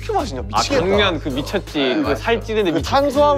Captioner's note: mouth waters